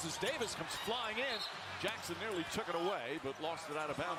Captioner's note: whistle tweets